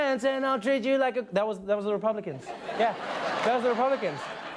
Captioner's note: laughter